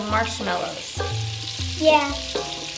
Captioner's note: sizzling butter